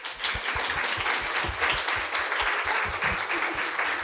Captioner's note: audience applauds